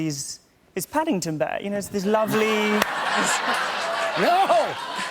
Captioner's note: laughter